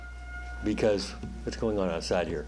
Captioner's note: siren wailing